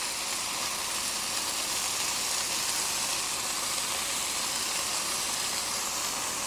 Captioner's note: sizzling